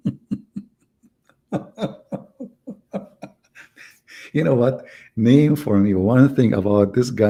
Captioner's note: Ketawa